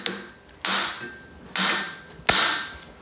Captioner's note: hammering